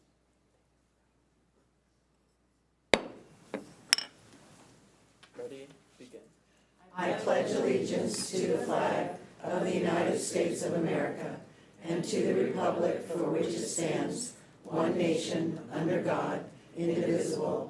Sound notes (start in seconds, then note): 2.9 gavel thuds